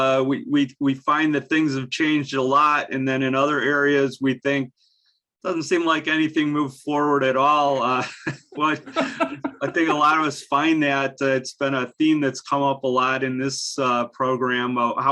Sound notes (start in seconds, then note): 7.5 laughs